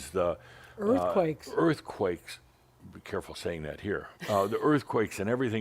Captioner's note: chuckles